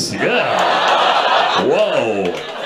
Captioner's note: audience laughs